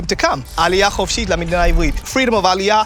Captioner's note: speaks in foreign language